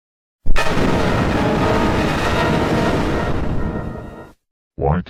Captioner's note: Mid Scary Substitute Windows XP Startup Sound.EXE